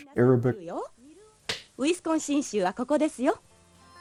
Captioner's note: speaking in Japanese